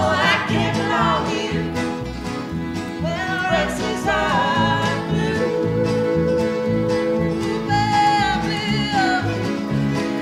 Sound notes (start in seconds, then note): none